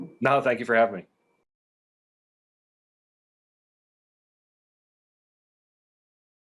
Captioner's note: no speaking